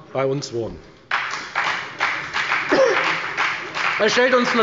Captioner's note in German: Beifall bei der FDP